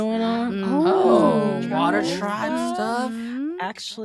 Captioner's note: all agreeing